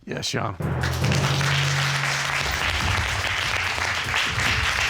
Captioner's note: audience applauding